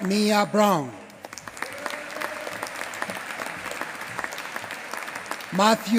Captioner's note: applause